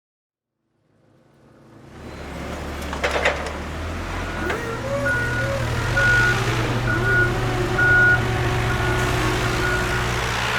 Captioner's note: construction sounds